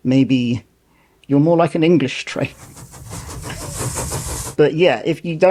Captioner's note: steam engine noise